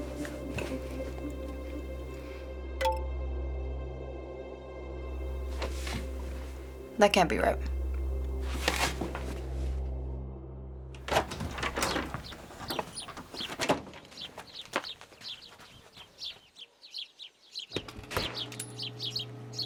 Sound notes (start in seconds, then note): 2.8 computer chimes; 11.1 birds chirping; 18.2 machines whir